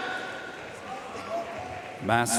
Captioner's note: audience cheering and applauding